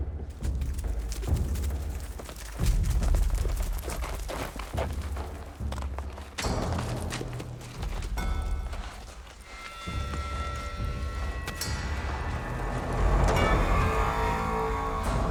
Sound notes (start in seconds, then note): 0.1 drum beats, galloping; 6.7 loud clanking, drum beats; 13.0 thunderous drum roll